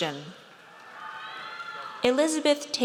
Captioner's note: audience cheers